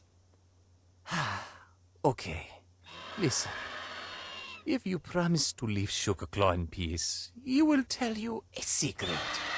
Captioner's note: sigh